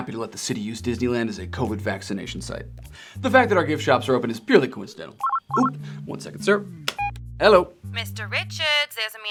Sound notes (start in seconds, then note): 5.2 phone chirping; 6.8 switch hook clicks; 7.0 phone beeps